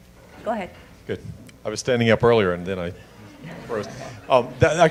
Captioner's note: audience chuckling